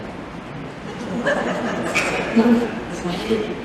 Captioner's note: laughter